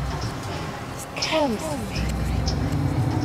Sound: voice from pipe

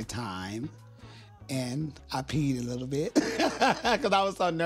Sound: laughs

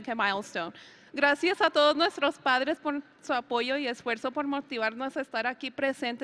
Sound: speaks in foreign language

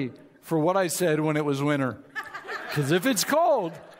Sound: audience laughs

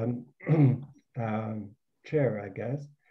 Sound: clears throat

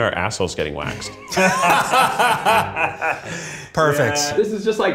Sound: laughing

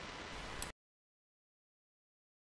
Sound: mouse click

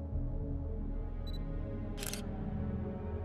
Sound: ominous music; camera shutter clicking; ominous music

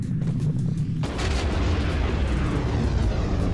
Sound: explosion

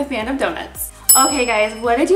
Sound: bell dings

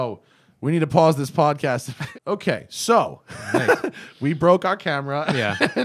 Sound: laughter; laughter

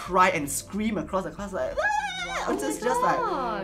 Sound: incoherent screeches

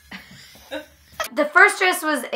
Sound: laughter

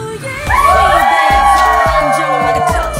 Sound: shout

